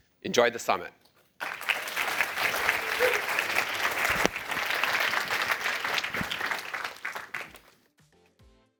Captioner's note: applause